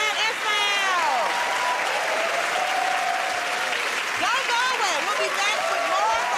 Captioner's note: cheers and applause